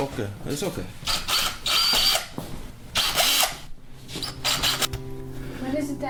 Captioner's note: electric screwdriver sound